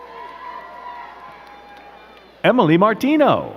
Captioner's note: crowd cheering and clapping